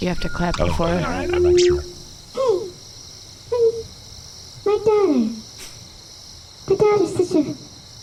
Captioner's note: muffled from inside the Fairy King’s stomach